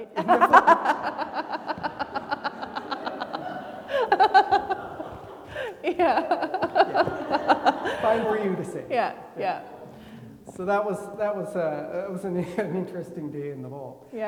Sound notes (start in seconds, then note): 2.4 everybody laughing; 7.0 laughs